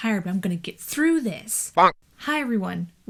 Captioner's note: bonk noise